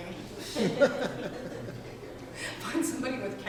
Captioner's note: audience laughing